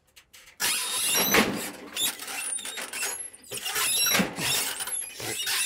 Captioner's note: scaffold squeaking